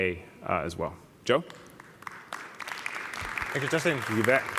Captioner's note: applause